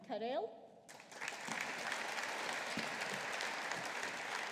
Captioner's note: audience applauding